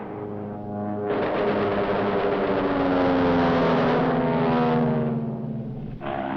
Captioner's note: engine rumbling; guns banging